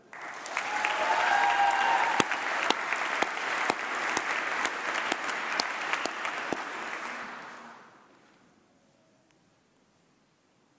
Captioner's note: applause